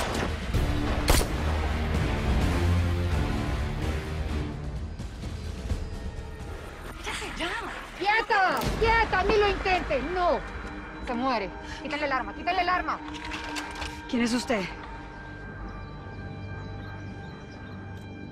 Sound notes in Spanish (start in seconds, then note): 0.9 Disparos